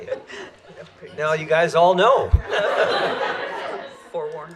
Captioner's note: laughter